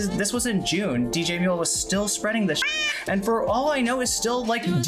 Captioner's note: meow